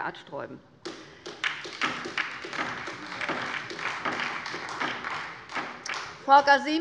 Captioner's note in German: Beifall bei der LINKEN und der SPD